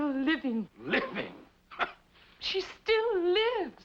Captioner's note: scoffs